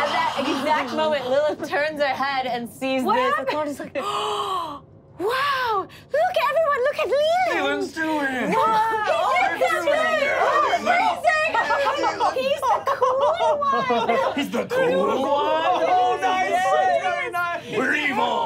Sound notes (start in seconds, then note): 4.0 gasps